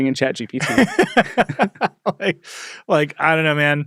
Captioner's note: laugh